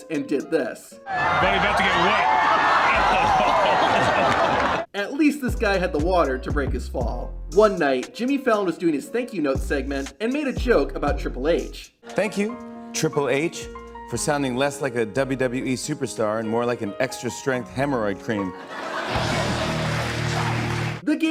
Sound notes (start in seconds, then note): 1.1 laughing; 3.9 crowd roaring